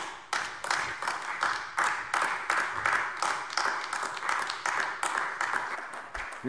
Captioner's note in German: Beifall AfD